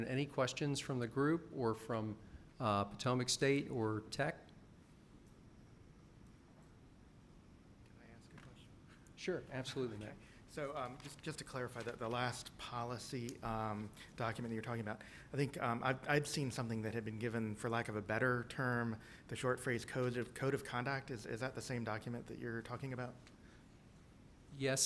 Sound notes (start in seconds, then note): 4.4 silence